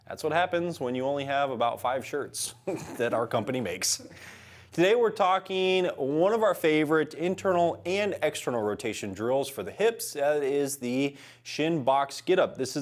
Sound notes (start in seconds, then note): 2.7 laughter